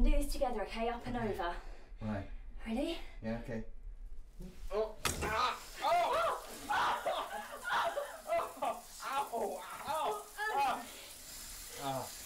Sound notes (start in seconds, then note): 5.0 thump; 6.8 water starts; 7.7 both laughing